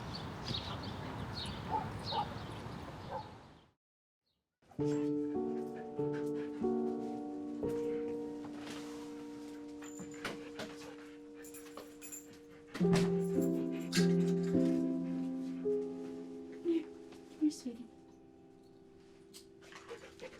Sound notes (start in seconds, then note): 1.6 dog barking; 5.0 soft dramatic music; 12.7 dog panting